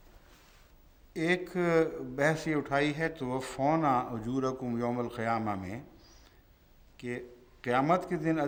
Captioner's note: Arabic